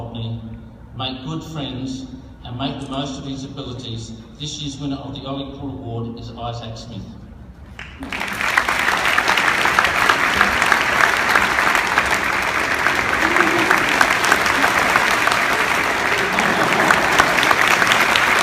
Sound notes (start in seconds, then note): 7.7 clapping